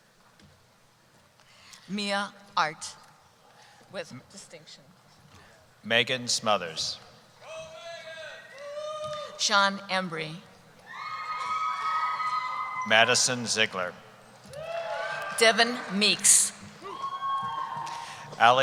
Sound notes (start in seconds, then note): 7.5 voiceover; 10.8 cheering; 16.8 cheering